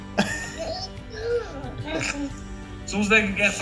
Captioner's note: cooing